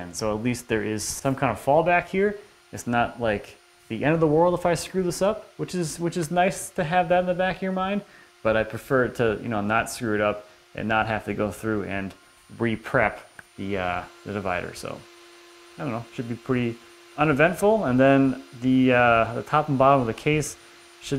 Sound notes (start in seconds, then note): none